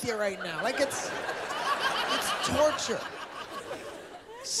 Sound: laughter

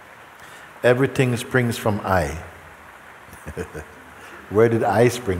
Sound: laughs

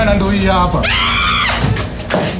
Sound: screams

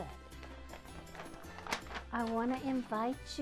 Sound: paper rustling

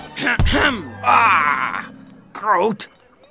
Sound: grunts

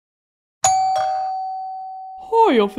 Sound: doorbell

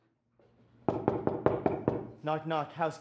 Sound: knocking

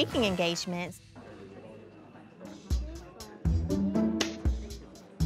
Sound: background chatter

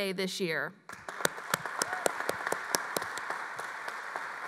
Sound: applause

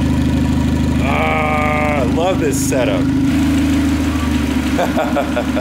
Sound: laughs

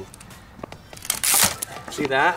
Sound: ripping

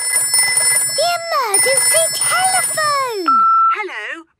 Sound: phone ringing; answering machine

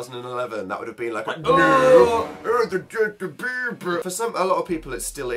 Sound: says Justin Bieber in a strange voice

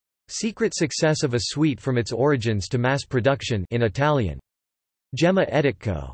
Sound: in Italian

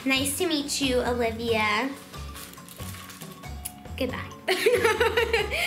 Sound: laughs

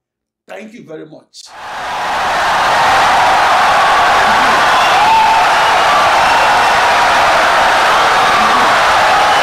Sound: audience cheering, applauding for 17 seconds

